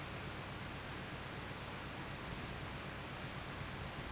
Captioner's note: none